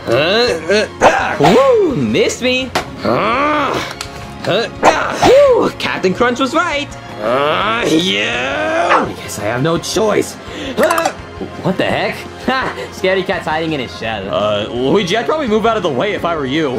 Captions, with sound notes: - Woo, miss me. (Mario grunts) Woo, Captain Crunch was right. - Ah, yeah. Guess, I have no choice. - What the heck? - Ah, scaredy cat's hiding in his shell. Luigi, I'd probably move out of the way if I were you.